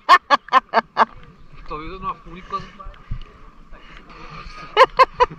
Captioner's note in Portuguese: risos